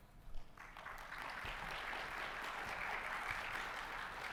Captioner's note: audience applauding